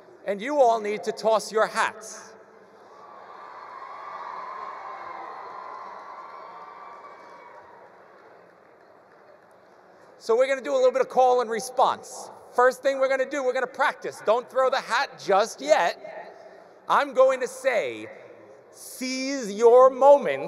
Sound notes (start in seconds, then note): 2.9 attendees cheering; 4.2 attendees applauding